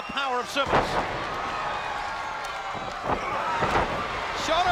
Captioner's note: thuds